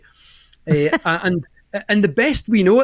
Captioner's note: chuckling